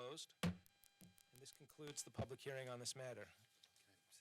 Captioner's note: gavel